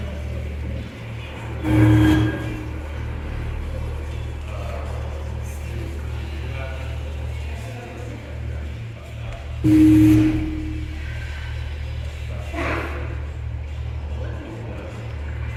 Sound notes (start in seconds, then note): 1.9 radio statics; 9.7 radio statics